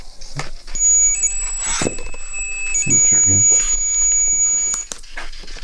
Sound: temperature sensor beeping

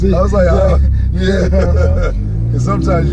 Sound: laughing

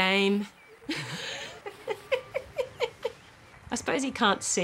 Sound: laughs

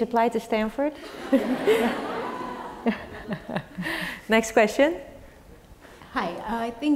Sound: laugh

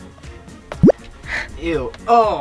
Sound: button clacking; special effects blooping

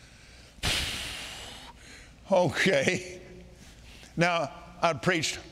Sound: blowing loudly

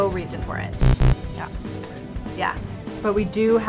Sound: buzzing

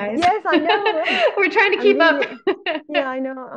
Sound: laughs

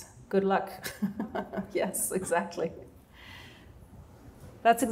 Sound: laughter

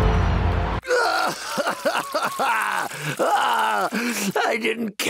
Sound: more ugly crying

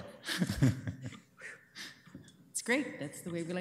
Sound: laughing

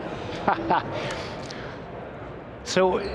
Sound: laughs

